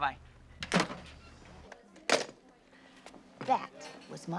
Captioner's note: phones thudding